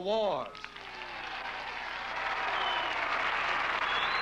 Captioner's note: applause